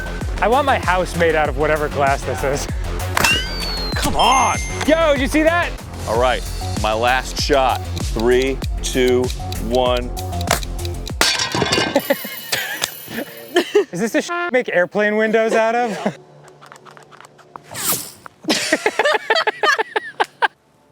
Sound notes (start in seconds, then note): 0.0 techno beat; 3.2 ping; 11.2 glass clatters; 11.8 laughing; 16.5 laughs; 16.5 whoosh